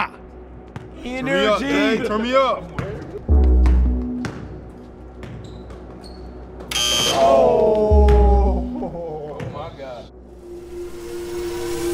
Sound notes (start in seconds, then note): 0.2 crowd chatter; 6.5 buzz sound; 6.5 crowd chatter